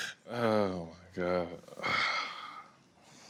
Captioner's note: sighing